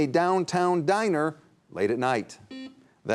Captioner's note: buzzer buzzing